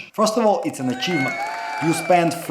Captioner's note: crowd cheering